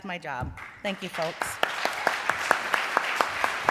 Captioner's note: applause